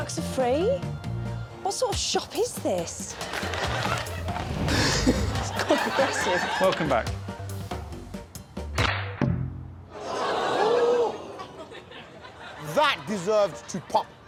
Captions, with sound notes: The ducks are free. The ducks are free? What sort of shop is this? [giggles] That's quite aggressive. Welcome back. [audience oohs]